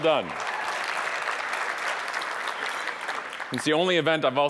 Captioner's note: audience applauding